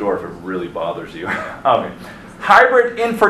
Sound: instructor laughing

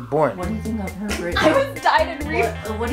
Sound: laughs

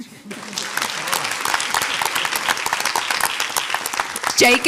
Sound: audience applauds

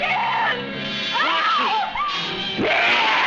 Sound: screaming; yelling

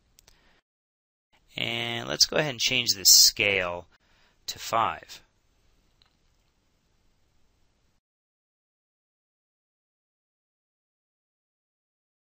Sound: silence

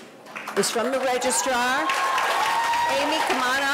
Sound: audience applauding

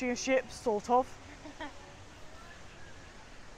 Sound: laughs

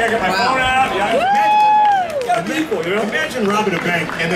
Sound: woman cheering

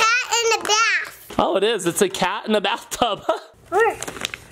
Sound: laughs

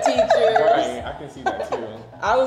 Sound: laughing

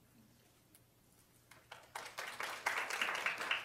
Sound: applause

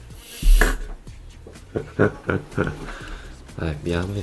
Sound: chuckle

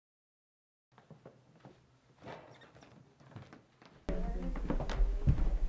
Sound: foot stomping; people chattering

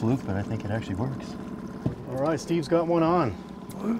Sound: boat engine idling

